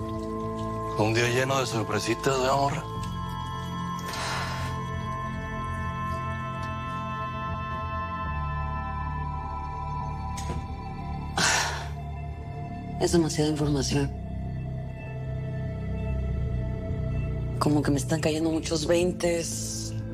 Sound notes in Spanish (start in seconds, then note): 3.8 Suspiro